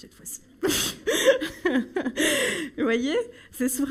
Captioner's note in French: Rire